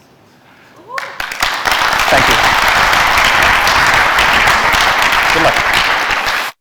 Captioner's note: applause